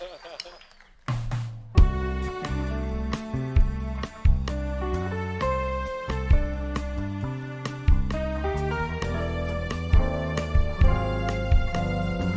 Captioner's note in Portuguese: aplausos